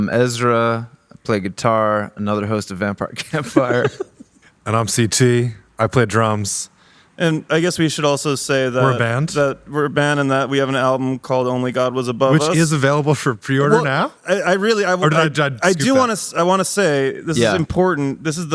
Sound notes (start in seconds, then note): 3.2 laughing